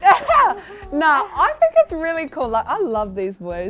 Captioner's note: laughs